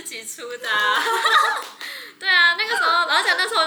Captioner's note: laughs